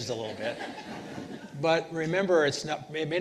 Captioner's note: participants laughing